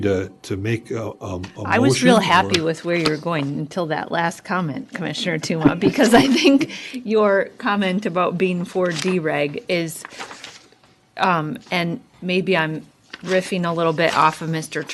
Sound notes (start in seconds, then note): 5.5 laughter